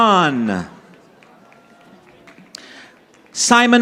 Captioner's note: audience applauding